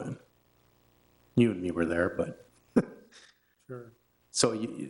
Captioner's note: laughing